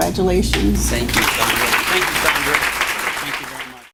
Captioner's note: applause